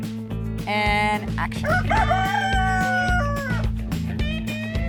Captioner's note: rooster crowing